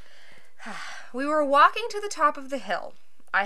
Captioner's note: sigh